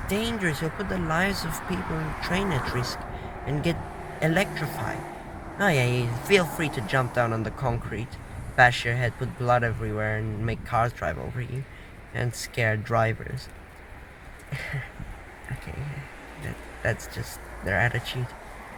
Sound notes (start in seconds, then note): 14.4 chuckles